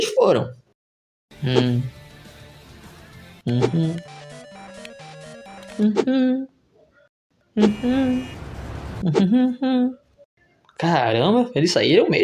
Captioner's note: phone ringing